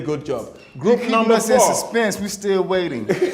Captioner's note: laughter